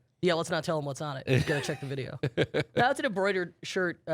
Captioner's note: laughs